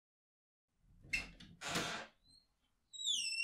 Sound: knocking; door Open

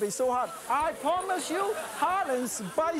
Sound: crowd; laughter

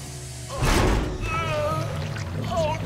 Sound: groaning

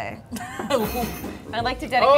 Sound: laughing

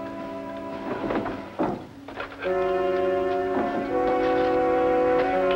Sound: drawers thudding

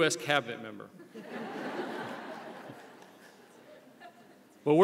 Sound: audience laughs

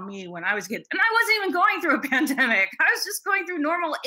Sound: laughs

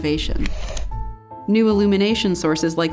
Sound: shutter clicks

